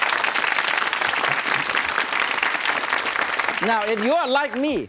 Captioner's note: audience clapping